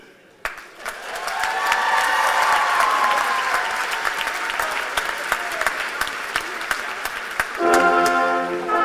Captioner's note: cheers and applause